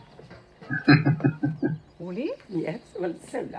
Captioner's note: chuckling